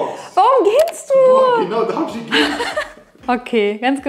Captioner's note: laughing